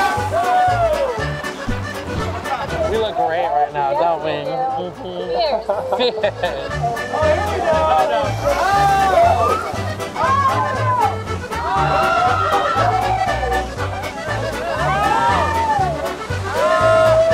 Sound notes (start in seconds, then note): 0.0 riders scream; 0.2 playful music; 8.9 playful music; 8.9 riders scream